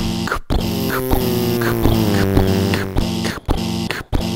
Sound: car buzzing

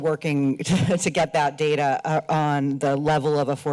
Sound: chuckles

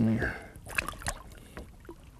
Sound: splash

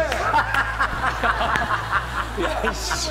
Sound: laughing

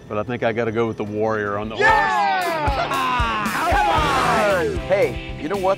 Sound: cheers

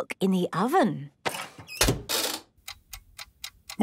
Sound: dial cranking, oven ticking

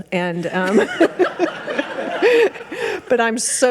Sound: audience laughing

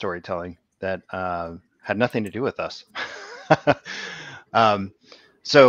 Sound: laughs

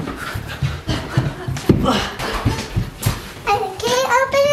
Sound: all panting

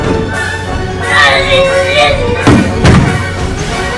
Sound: yelling

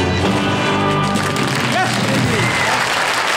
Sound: audience applauds

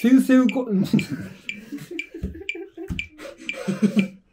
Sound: laughing

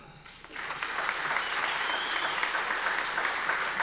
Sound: audience applause

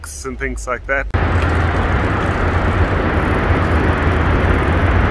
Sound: traffic sound

